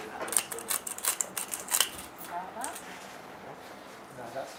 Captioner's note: grinder grinding